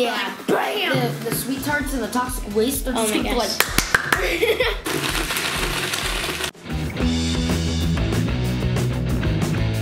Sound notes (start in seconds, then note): 3.5 violent clapping; 4.1 laughing; 4.8 blender whirring; 6.7 rock music